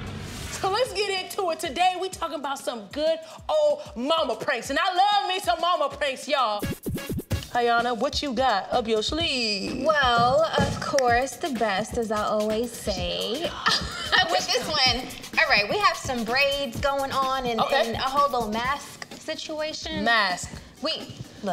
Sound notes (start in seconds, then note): 6.6 upbeat jingle; 12.9 whispering